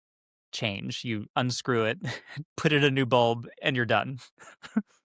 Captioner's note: scoffs